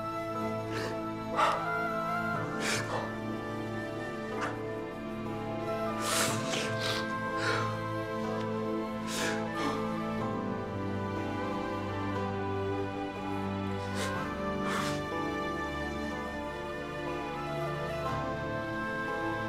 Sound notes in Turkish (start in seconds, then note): 2.5 Ağlama sesi; 2.6 Müzik - Duygusal